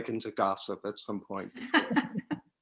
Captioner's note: laughter